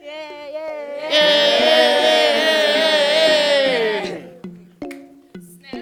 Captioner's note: clap